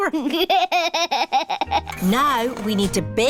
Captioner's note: chuckles